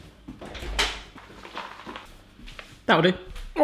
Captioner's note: rattling